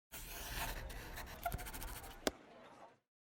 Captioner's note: scratching on paper